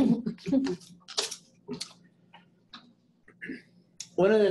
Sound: attendees laughing

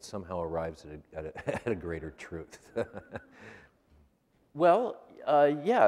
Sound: laughs

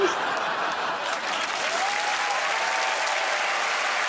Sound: crowd applauds and laughs

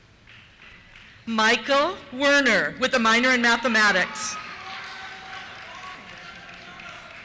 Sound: cheers

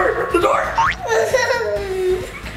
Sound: boinking; laughing

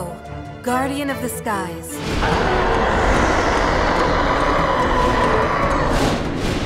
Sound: Ho-Oh roars

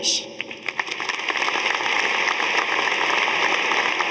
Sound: audience applauding

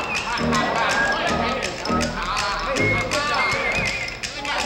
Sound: players chatter

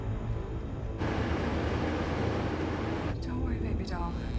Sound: truck motor roaring

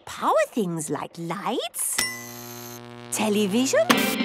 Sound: light bulb buzzing; TV static, show music

